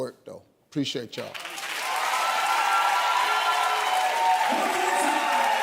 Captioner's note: audience applauds